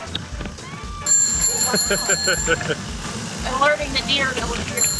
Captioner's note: bell rings; laughs